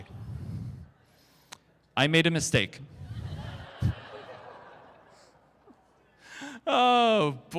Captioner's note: crowd Laughter